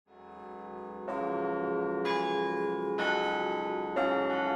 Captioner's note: bells chiming